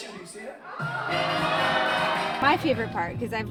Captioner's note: audience ahs